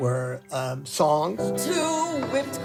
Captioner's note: soundbite of tv show, "sesame street"